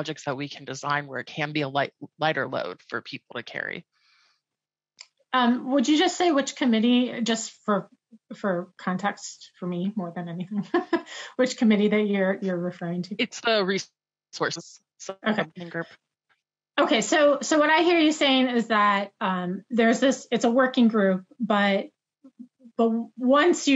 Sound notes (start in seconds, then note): 10.9 laughs; 13.2 audio glitches